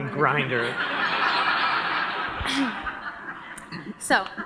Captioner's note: audience laughs